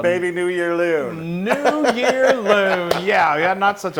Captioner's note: laugh